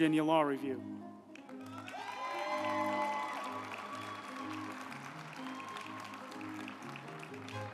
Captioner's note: uplifting music; group applauding